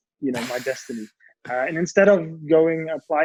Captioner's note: man 1 laughs